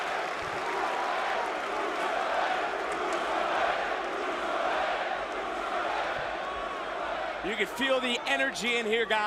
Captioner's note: crowd cheering